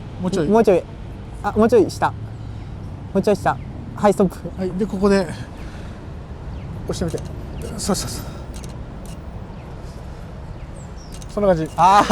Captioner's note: shutter